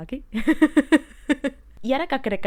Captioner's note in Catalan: Riu en pringat, de nou